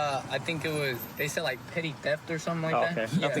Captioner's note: laughs